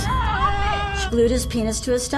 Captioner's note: screaming